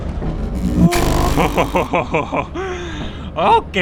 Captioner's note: relief laughter